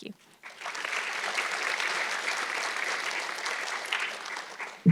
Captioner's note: audience clapping